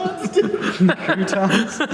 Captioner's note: laughing